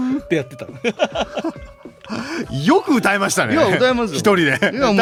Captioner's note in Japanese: 笑い